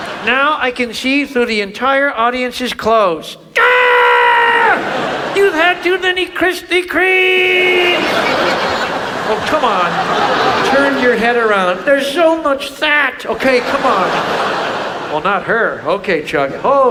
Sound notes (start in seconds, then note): 0.0 audience laughs; 3.5 Chuck screams; 7.6 audience laughs; 14.2 audience laughs